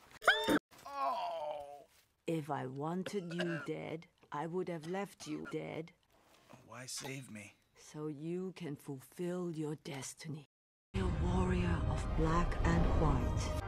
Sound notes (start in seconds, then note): 0.2 scream; 0.8 groan of pain